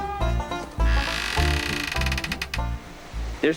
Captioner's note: door creaking